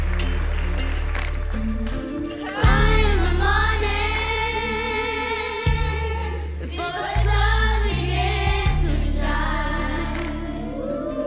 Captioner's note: applause